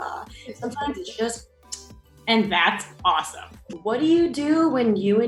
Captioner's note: kiss